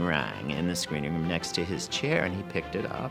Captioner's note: none